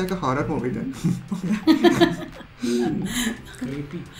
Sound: laughs

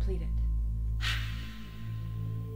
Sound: hiss

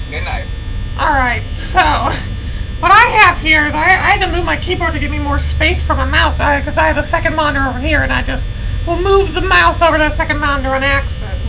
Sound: sarcastically

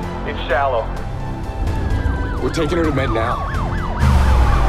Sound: siren wailing

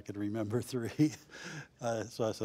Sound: laughs

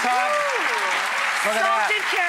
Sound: audience applause

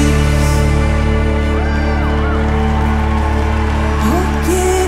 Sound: audience cheers and applauds

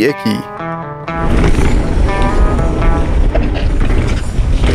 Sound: whirring

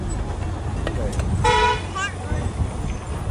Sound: horn sound

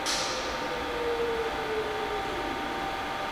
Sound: soft machine whirring

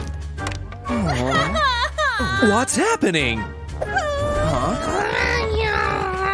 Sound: roaring

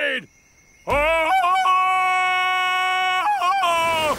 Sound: ululating

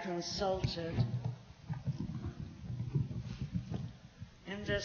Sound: microphone noises

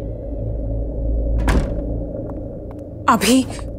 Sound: door closes

